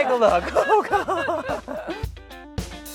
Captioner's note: all laughing; upbeat music